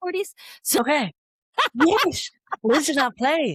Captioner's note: laughter